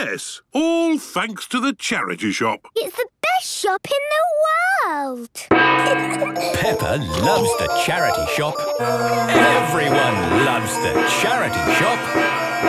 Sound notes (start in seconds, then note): 5.6 kids giggling; 11.3 dissonant music